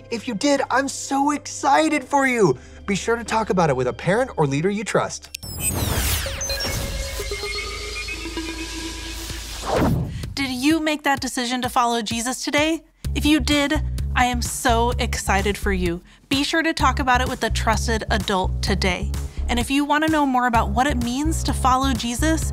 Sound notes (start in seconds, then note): 5.2 upbeat music; 5.5 electricity crackling